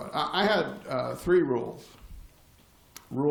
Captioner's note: none